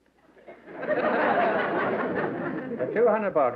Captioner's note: laughter